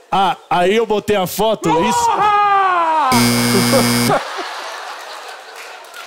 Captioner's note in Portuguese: grita; campainha